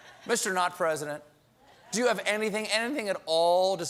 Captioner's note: laughter